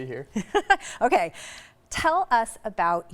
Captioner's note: laughs